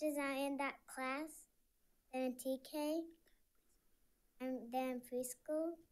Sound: none

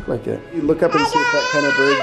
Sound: toddler screams

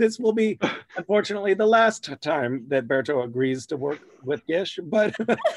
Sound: laughter

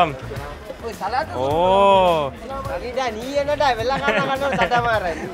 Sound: speaking foreign language; laughs

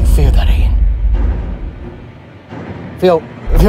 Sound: stomping Sounds

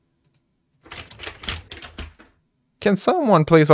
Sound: door handle creaking

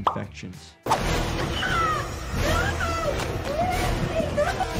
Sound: persons screaming

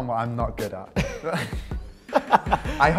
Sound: laughing; chuckle

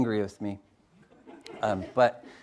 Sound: audience laughs

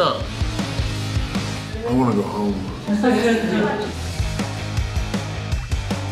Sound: crowd laughter

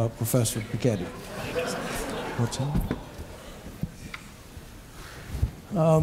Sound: laughter

